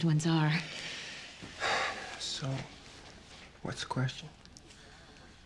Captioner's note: exhales